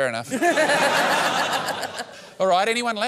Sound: laughter

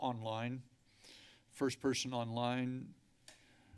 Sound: inhales

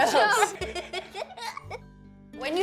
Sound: laughter

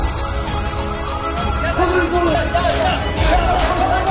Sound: war sound/Russian yelling

